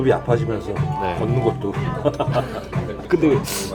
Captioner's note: bittersweet laugh